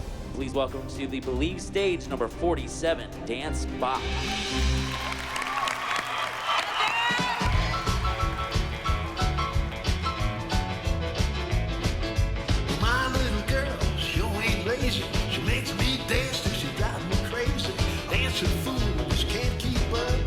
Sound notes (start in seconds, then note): 4.0 cheering and applause